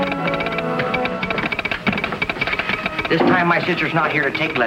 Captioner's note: horse galloping; telegraph ticking